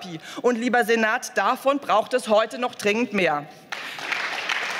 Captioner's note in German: Beifall